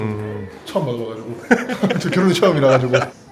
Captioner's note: chuckles